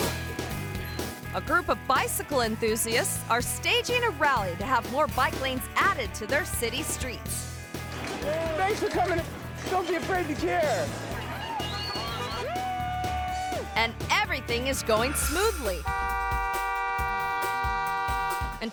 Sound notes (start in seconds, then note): 0.2 upbeat music; 11.5 people whistling; 15.2 horn honking